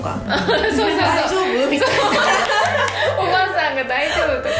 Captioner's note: laugh